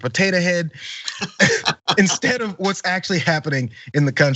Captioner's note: laugh